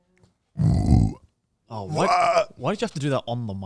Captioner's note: burping